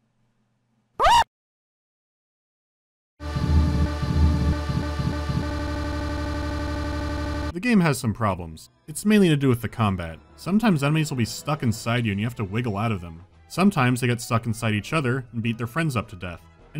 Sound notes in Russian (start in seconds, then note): 1.0 девчачий визг